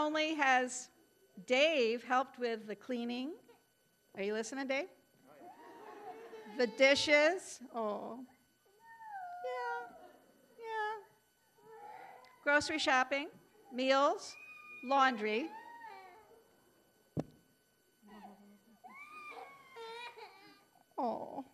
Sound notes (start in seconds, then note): 8.8 child crying; 16.2 child crying